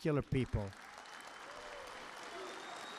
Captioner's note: applause